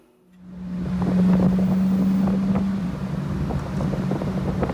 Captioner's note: engine runs